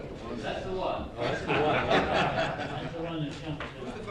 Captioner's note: laughter